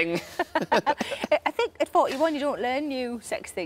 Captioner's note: both laughing